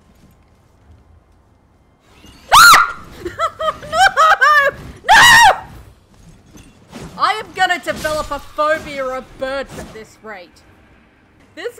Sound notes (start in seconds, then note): 3.1 yelp, laughter